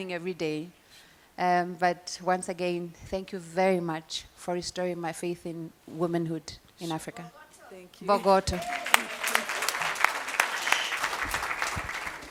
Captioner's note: applause